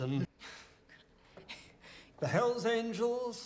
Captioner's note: Kate chuckles